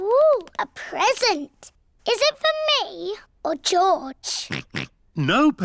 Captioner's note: oinks